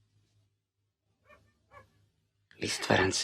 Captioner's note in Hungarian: távoli kutyaugatás